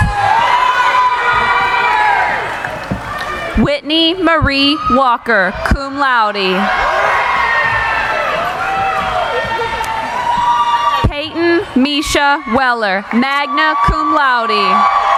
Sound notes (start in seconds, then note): 0.3 cheering; 6.9 cheering